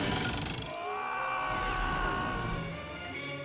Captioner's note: screaming